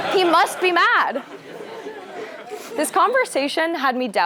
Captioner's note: laugh